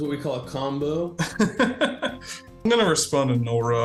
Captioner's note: laughing